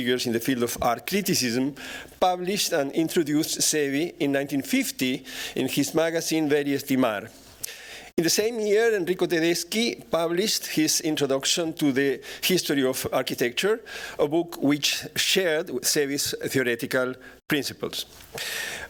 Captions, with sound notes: in the field of art criticism, published and introduced Zevi in 1950 in his magazine, [non-english speech].. In the same year, Enrico Tedeschi published his Introduction to the History of Architecture, a book which shared serious theoretical principles.